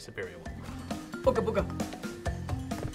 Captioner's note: mimicking Aku-Aku mask